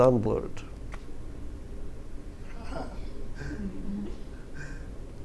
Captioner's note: laughter